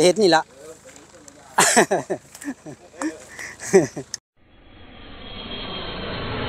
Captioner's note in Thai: เสียงหัวเราะ